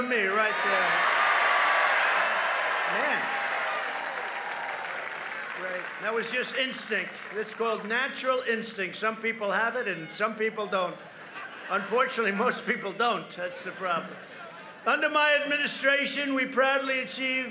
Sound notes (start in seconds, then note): 5.5 applause